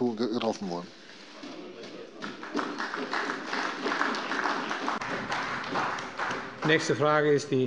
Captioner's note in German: Beifall bei der CDU und dem BÜNDNIS 90/DIE GRÜNEN